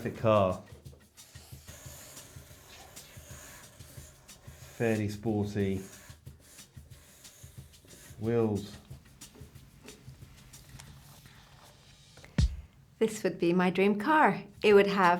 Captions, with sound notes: Perfect car. (markers screeching) Fairly sporty. Wheels. - This would be my dream car.